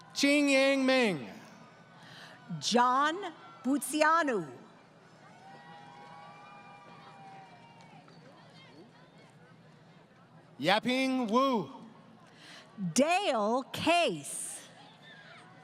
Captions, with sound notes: >> Ching Yeng Ming. >> John Butsianu. [ Crowd Cheering ] >> Yaping Wu. >> Dale Case.